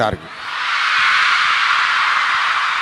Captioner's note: thunderous applause